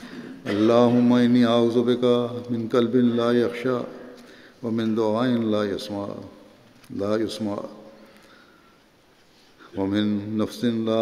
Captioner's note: Arabic